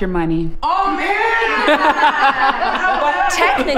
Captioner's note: laughter